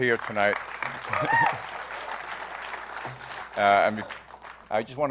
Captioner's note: applause